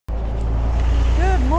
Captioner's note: car noises